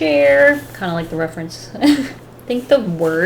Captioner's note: laughs